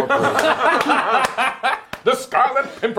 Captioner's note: laughing